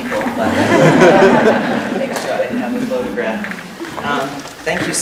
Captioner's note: laughter